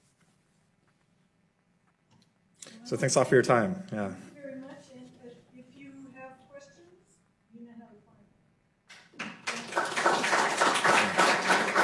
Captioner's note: applause